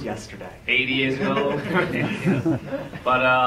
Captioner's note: laughs